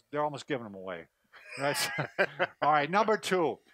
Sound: laughs

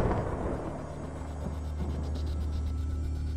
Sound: thunder

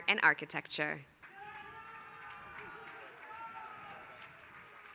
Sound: applause

